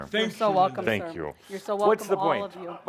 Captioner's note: none